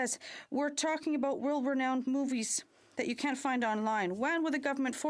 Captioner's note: speaking French